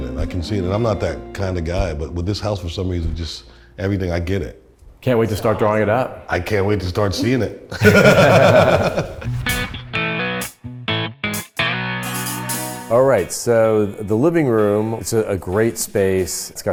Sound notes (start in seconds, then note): 7.6 men laugh; 9.2 electric guitar music